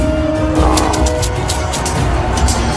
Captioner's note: clink-clink-clink-clink